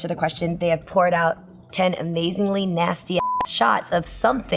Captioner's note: beep